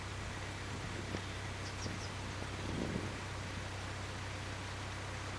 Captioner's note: diesel Engine - sound